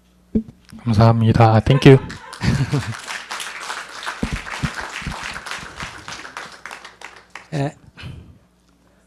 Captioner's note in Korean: 청중 박수